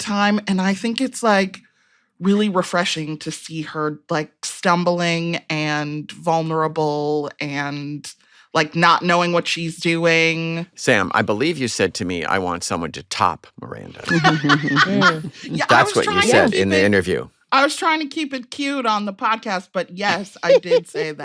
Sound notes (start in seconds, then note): 13.9 laughs